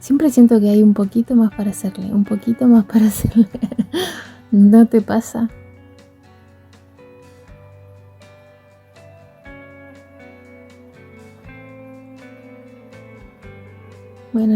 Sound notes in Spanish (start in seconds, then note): 8.0 risas